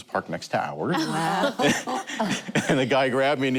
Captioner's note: laughter